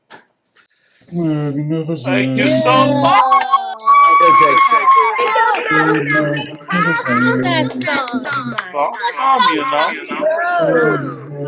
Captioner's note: applause